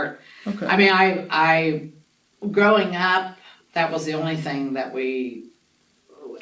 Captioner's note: laughs to self